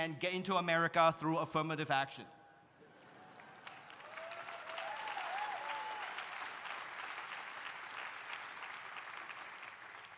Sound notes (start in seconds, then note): 3.0 audience applauding; 3.2 audience cheering